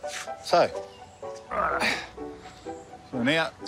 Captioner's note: groans